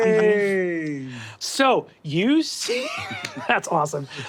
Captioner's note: laughs